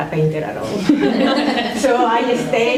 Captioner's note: laughter